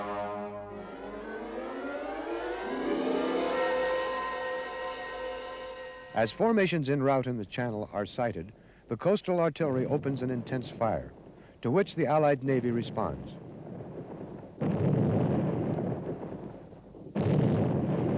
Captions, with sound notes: (thrilling music) As formations in route in the channel are sighted, the coastal artillery opens an intense fire, to which the Allied Navy responds. (shell booms)